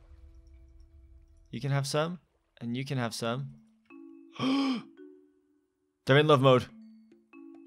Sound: gasps

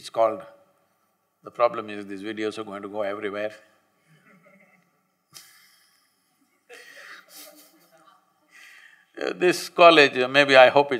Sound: laughter

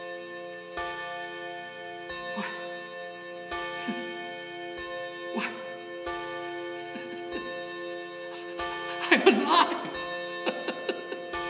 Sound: clock ticks and chimes

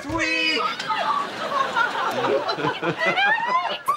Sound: laughing

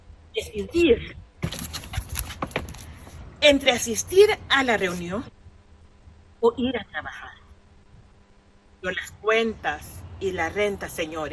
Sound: speaking spanish

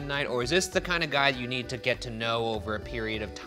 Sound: none

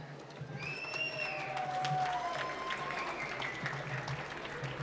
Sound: whistles and applause

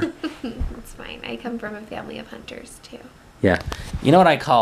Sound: laughs

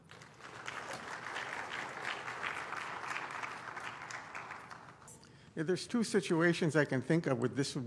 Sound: applause

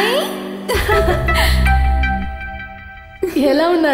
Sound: laughs

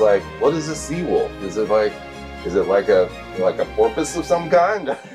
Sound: laughs

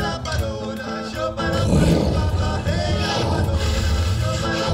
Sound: intense blowing

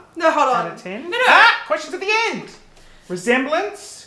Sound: exclaims

